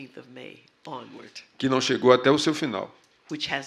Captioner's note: speaking portuguese